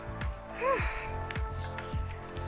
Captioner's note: sigh